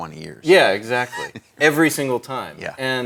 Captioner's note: laughs